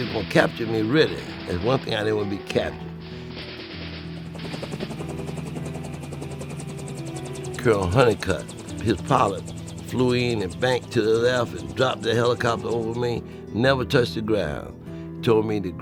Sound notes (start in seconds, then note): 3.9 helicopter whirring